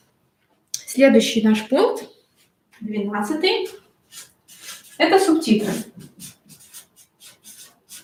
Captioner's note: скрежет маркера